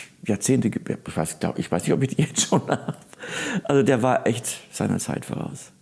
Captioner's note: laughing